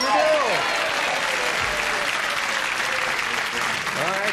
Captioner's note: applause, cheering